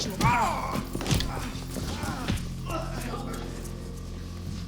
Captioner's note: Enrique grunting